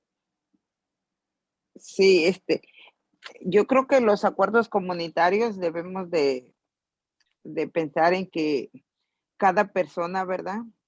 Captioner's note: in Spanish